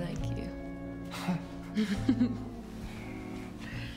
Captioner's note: laughs